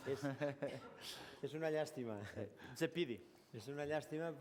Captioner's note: non-english speech